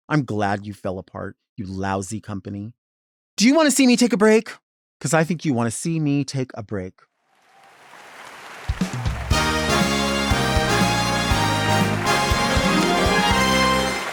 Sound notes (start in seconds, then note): 7.5 audience applauding; 7.5 audience cheering; 9.0 upbeat music